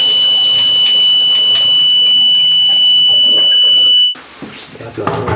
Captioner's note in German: Alarm